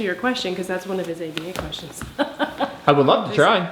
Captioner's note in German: lacht